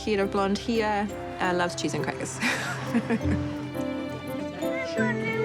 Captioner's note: chuckles